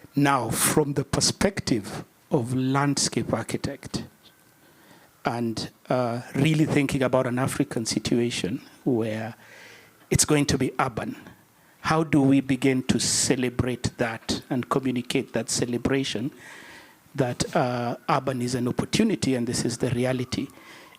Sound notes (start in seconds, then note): none